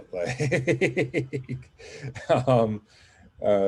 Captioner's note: laughing